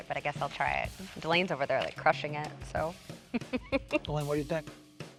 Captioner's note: laughs